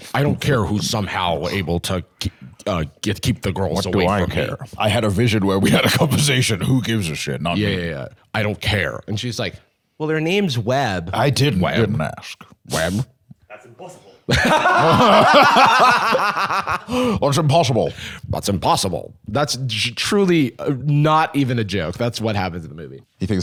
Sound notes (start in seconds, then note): 14.2 both laughing